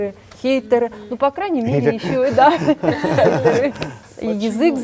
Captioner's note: laugh